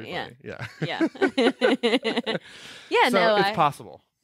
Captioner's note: laughing